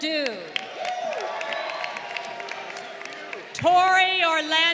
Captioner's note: crowd cheering